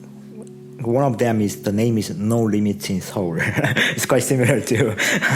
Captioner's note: chuckles